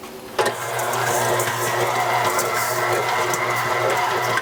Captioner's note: machine whirling